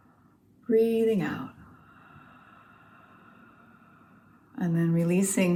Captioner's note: haa sound on inhale with mouth open; haaaa sound with mouth open on exhale